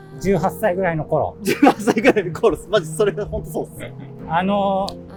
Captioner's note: laughing